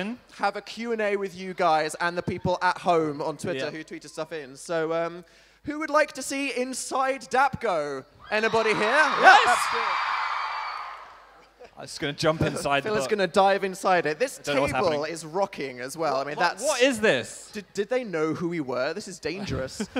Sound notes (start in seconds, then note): 8.2 crowd; 8.2 loud cheering